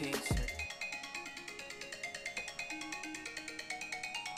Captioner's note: alarm rings